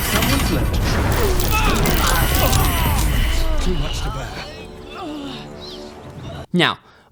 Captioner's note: general Cries of the party in anguish